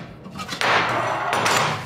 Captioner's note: clattering